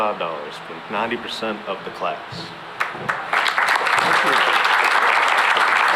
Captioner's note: applause